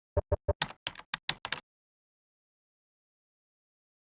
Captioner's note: typing on keyboard